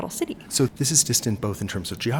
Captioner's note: voiceover